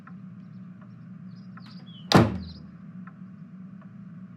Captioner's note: door opens and closes